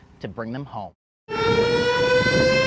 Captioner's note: tornado siren